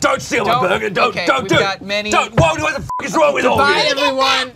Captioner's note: beep